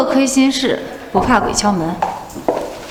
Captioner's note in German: Klopft an die Tür